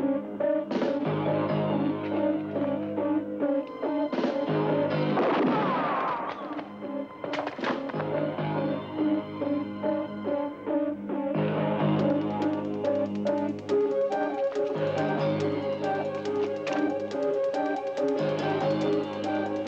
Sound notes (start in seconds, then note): 5.0 shuffling footsteps; 5.2 gun blasts; 8.7 dramatic, suspenseful music